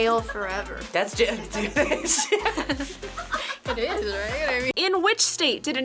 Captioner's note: group laughs